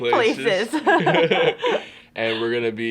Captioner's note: Elle and Justice laughs